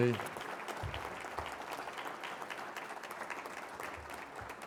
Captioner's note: applause